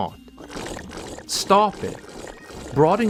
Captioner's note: tap noises